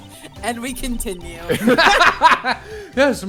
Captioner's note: laughter